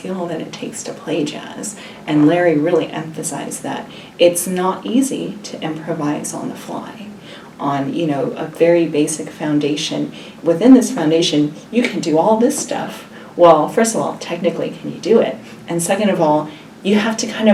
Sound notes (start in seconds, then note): none